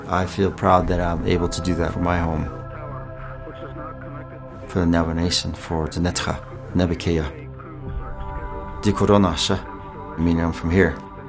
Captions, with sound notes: I feel proud that I'm able to do that for my home. For the Navajo Nation, for [Navajo language]. [Navajo language], meaning I'm from here.